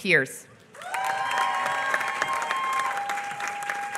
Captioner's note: applause